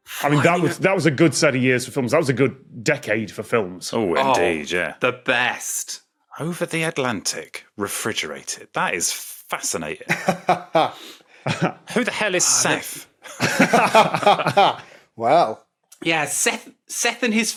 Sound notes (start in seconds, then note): 10.0 laughs; 10.0 chuckles; 13.2 group laughing